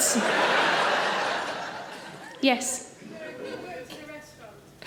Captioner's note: audience laughing